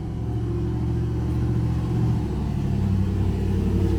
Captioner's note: car engine humming